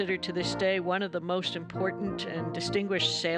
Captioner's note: none